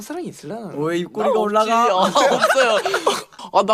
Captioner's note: hysterical laughter in the background